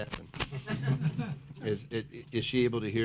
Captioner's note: scattered laughter